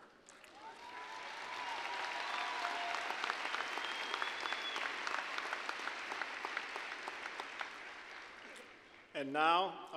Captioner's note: applause